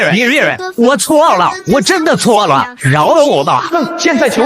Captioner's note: sobbing